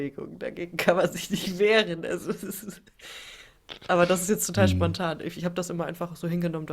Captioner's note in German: gelächter